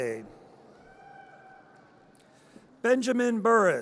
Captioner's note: audience cheers